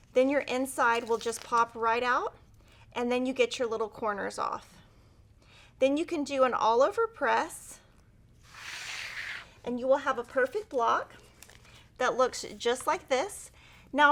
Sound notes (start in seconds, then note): 8.4 paper sliding